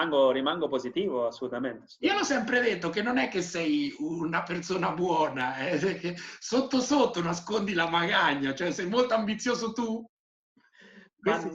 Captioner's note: laughing